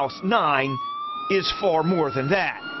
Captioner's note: sound of siren